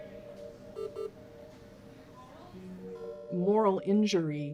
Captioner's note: CPR beeps